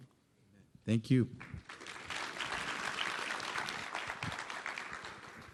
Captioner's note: applause